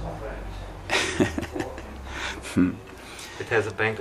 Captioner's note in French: Rires